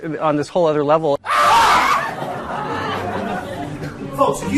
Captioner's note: actors scream, audience laughing